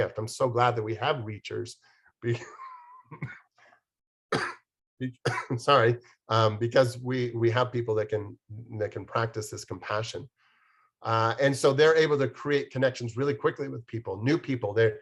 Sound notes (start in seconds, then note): 5.0 coughs